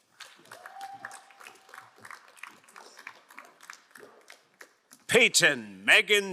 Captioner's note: crowd cheering and applauding